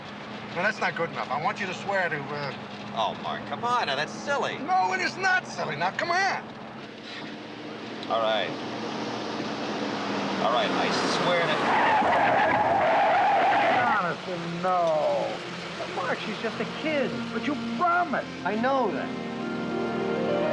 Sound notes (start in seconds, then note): 11.7 tires screeching